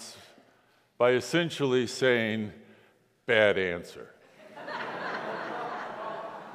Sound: congregation laughs

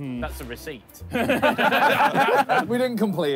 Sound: all laughing

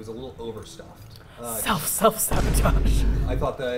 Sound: dramatic thud

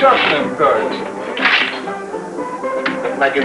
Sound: cards shuffling

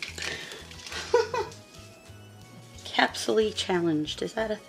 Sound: laughing

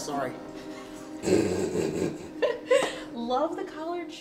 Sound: laughs

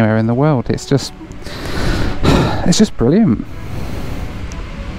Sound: sighs

